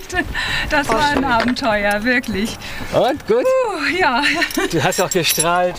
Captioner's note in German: seufzt